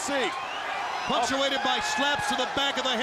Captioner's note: crowd chatter